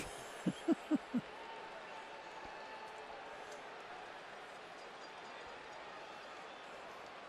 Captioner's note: laughs